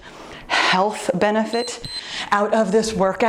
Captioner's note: timer beeps